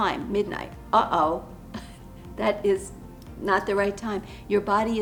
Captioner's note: chuckles